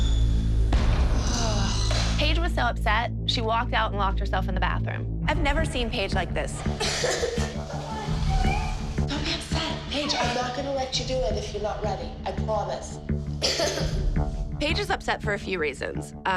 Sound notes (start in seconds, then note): 6.8 paige crying